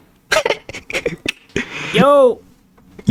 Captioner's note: laughs to myself